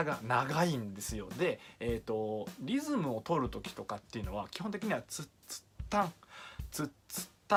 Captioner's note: imitation of snare and hi-hat notes